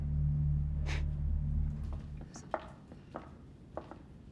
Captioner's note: Wendy sniffs back; footsteps tapping